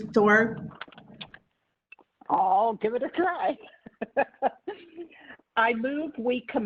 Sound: laughing

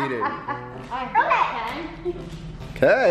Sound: laughing

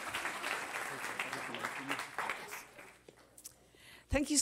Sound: cheers and applause

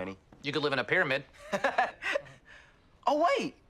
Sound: TROY laughs

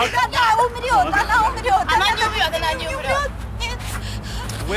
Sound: speaking in Russian

